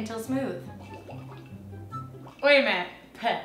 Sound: blows bubbles

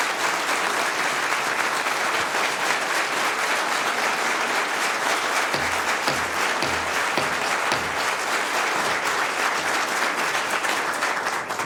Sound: applause

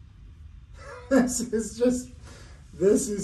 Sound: laughing

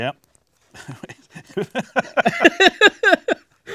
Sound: laughs

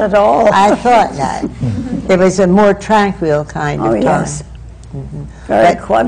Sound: laughter

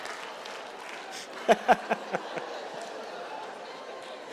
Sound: audience laughing and clapping; reverend laughing

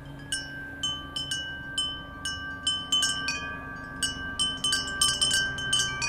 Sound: wind chimes chiming

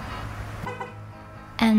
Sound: honking sound

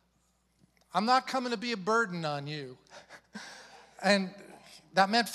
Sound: chuckles

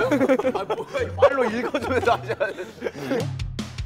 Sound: kekeke

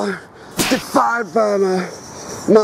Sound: gun shot

